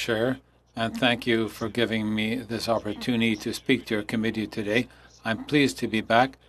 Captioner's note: speaking French